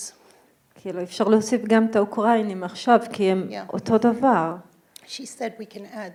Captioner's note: speaking in foreign language